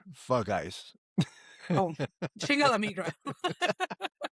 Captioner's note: laughs